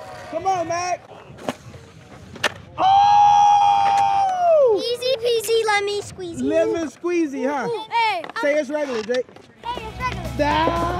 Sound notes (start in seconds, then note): 2.9 shouts excitedly